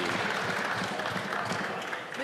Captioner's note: some Applause